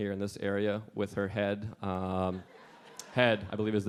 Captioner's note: audience laughing